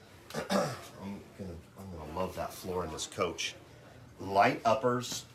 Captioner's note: clears throat